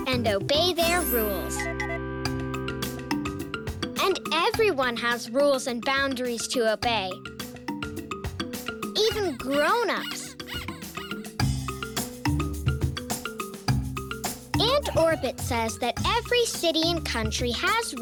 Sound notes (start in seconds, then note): 0.9 tinkling; 11.2 squeaking